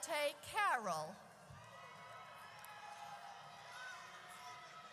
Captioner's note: audience cheers